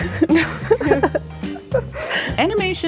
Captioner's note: laughs